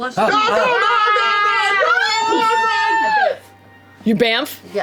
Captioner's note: screaming